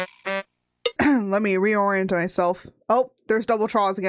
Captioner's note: cough